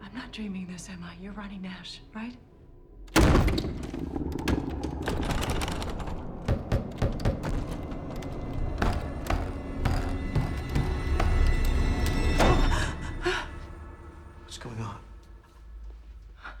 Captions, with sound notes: - I'm not dreaming this, am I? You're Ronnie Nash, right? (door bangs) (door latch jiggles) (door knocking) (eerie music intensifies) (Bryn gasps) - What's going on?